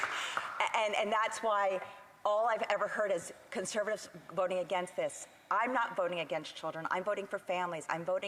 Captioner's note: applause